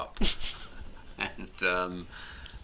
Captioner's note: both chuckles